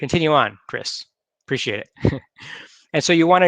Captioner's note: chuckles